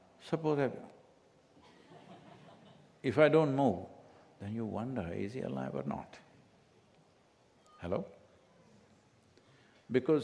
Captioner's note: few laugh